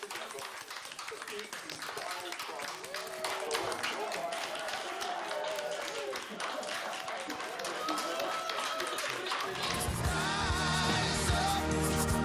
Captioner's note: applause